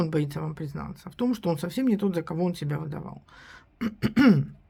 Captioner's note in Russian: откашливается